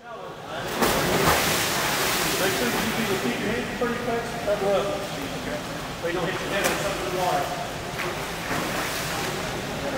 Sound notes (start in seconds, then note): 2.6 water splashing